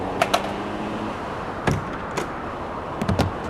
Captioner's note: door opens; skateboard clattering; door closes; door opens; body thudding